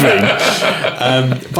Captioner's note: laughing